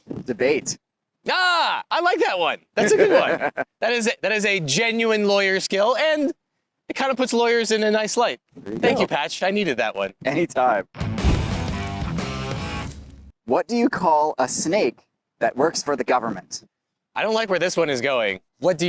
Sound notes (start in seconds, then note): 2.7 laughs; 10.9 cool rock music